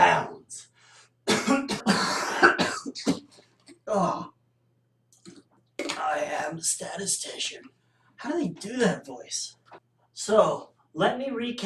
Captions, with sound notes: *Cough* *Coughing* Ahhh. I am the statistician. [Begins speaking normally] How do they do that voice? So, let me re-cap.